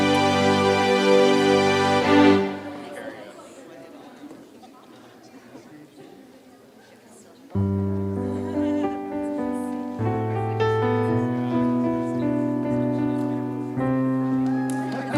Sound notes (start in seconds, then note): 0.0 classical organ music; 3.6 background chatter; 7.6 soft piano music; 14.4 applause and cheering